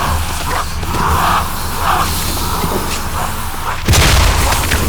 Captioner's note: gunshots